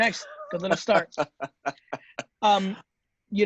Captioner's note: laughing